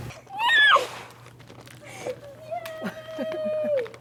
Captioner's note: girl squeals